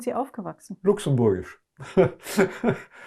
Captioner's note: laughing